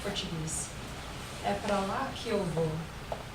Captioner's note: speaking portuguese